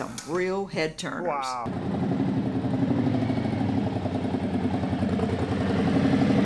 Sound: motorcycle engine rumbling

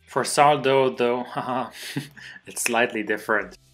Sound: light chuckle

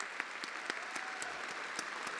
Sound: attendees applauding

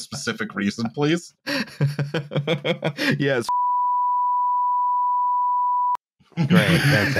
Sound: chuckles; laughter

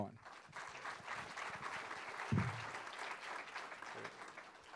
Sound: students clapping

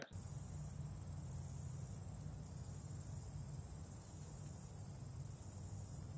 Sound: insects whirring; air gently rushing

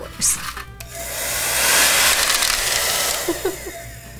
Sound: hair dryer blowing; laughs

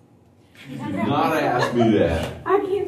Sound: laughter

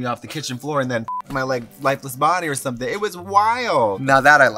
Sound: beep

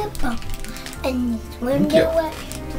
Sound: vocalizing wordlessly

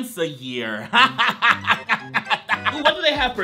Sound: laughs

